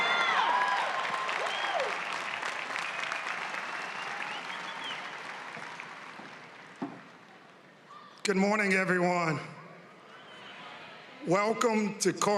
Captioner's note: cheering and applause